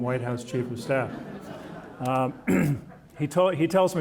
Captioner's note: audience laughing